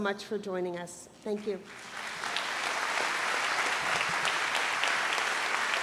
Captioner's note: audience applauds